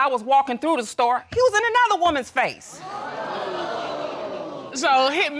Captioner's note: audience exclaiming